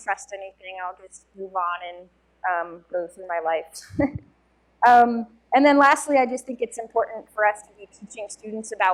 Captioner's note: chuckle